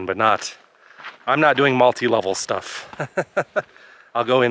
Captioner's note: laughs